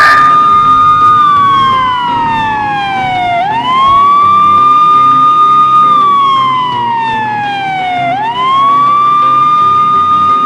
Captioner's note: sirens and music